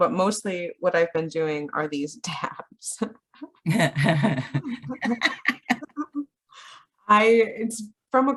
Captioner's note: both laugh